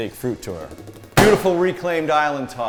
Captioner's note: slams hand on counter top